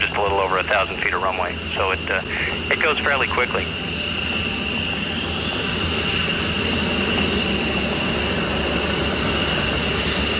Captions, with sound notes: It's just a little over 1,000 feet of runway, so it goes fairly quickly. [plane noise]